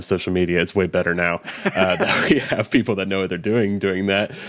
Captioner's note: both laughing